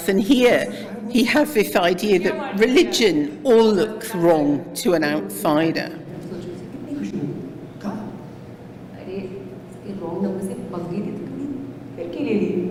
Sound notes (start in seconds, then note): 6.8 non-english speech